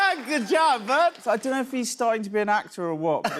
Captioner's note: normal voice